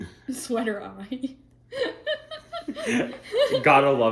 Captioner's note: laughter